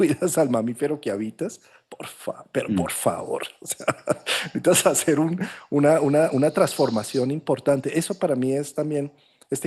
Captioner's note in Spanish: risas